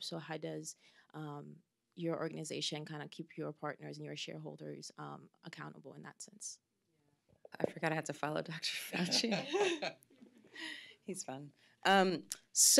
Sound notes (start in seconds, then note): 9.0 laughs